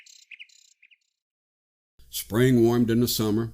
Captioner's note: birds fade into silence